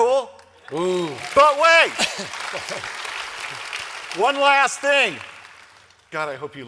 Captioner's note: applause